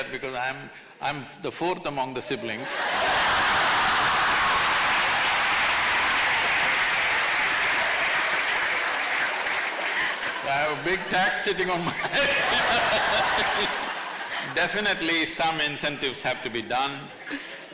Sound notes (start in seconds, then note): 2.8 laughter/Applause; 11.8 laughs; 14.2 laughter